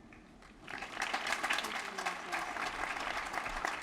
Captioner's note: applause